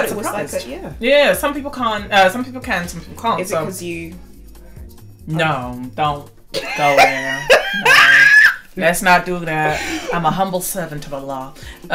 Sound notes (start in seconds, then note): 6.6 laughs